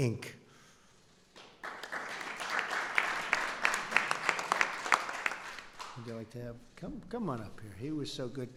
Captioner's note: applause